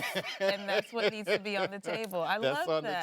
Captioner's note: laughing